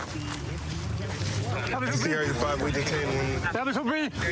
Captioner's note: excited chatter